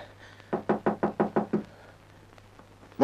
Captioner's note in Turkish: Kapının çalınma sesi